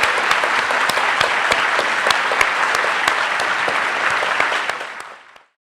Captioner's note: audience and speakers applauding